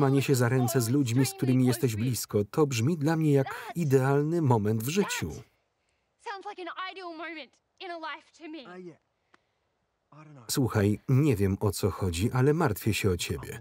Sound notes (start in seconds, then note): none